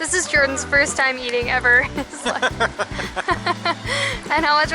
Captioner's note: laughter